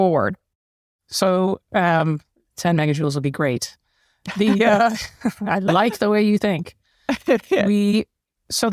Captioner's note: laugh